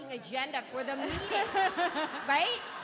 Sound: audience laughing

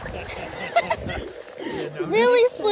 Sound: laughs

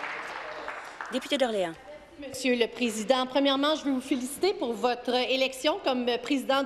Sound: applause

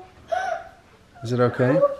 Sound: gasps

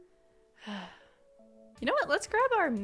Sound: sigh

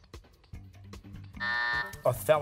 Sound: buzzer

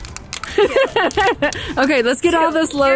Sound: laughs

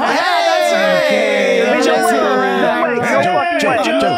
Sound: cheering

